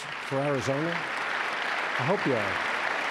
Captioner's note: clapping